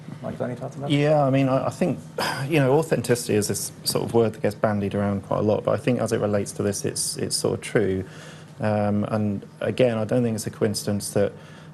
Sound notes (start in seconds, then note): 2.1 sighs